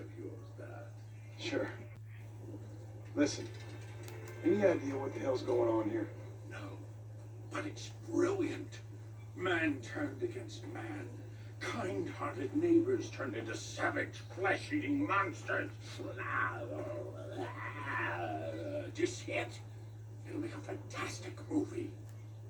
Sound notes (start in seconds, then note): 15.9 zombie screams